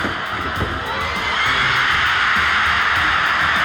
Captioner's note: crowd cheering